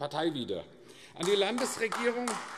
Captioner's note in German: Beifall AfD